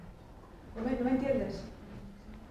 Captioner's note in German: auf Spanisch